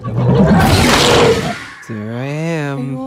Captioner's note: Demogorgon roars